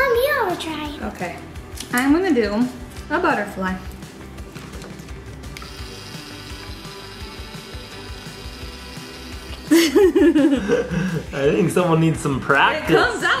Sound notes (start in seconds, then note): 5.5 pen buzzing; 9.6 mom laughs